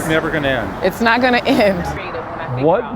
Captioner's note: chuckles